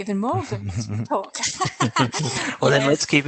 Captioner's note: laughter